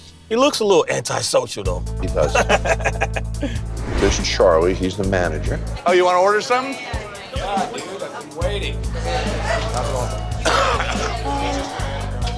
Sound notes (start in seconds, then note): 2.2 laughs; 9.0 coughs